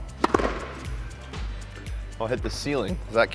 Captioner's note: upbeat music; ball bangs